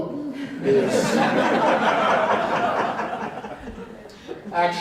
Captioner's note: audience laughs